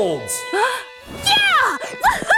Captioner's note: Rudy gasping